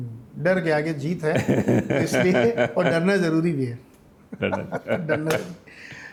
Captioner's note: laughs